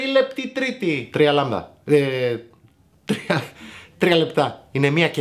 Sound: ha ha ha

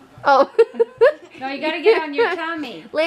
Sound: laughing

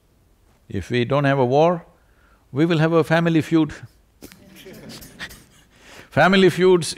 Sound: laughter

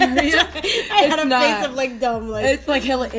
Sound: laughter

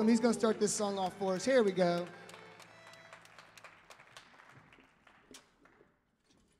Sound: audience applauding

